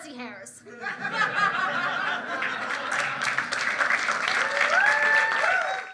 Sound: laughter & applause

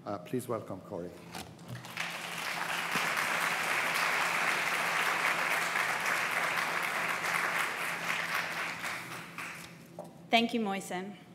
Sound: applause

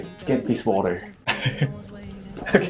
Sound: chuckles

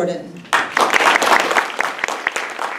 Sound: clapping

